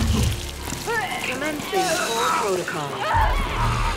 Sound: computer voice

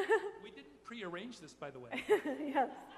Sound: voiceover; chuckling

